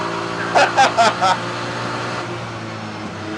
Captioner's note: nervous laugh